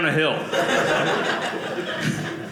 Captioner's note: audience laughing